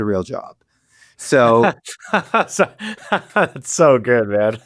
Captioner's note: laughs